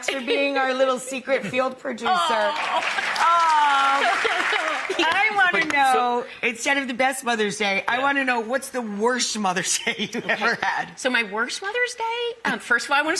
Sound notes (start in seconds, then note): 2.3 audience applauding; 9.8 laughing